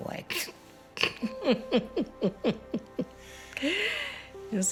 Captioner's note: laughs